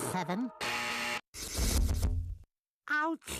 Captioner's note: buzzer sounding